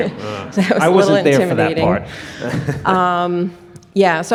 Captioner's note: laughs